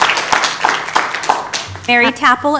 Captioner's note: applause